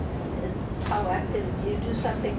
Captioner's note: speaking faintly